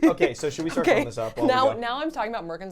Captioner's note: laughing